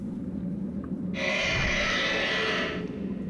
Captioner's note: continues screeching